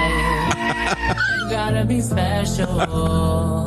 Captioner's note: laughs